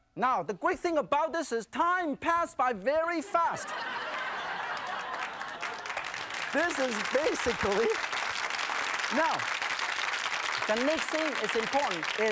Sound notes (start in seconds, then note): 3.3 laughing; 5.9 applause